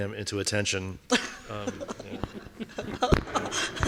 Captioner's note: laughing